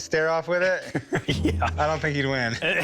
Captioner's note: laughs